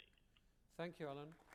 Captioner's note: applause